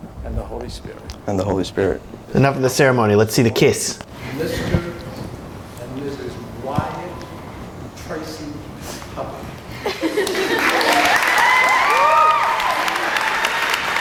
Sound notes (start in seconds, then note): 10.2 cheering